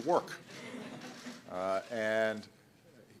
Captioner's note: laughter